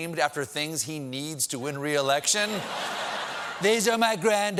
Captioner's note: laughter